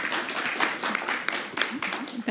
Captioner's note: applause